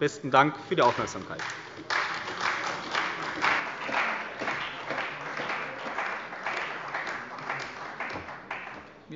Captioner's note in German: Beifall bei der CDU